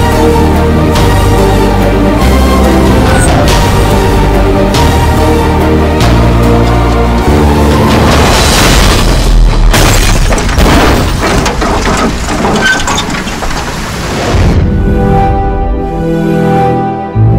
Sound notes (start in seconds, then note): 8.3 glass shatters; 8.4 thud